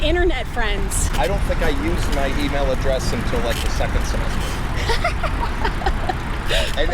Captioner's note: laughter